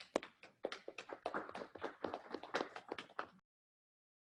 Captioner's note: applause